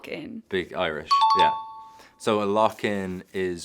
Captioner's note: chime dings